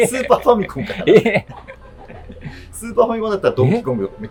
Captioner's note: laughing